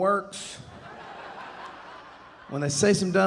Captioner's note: audience laughing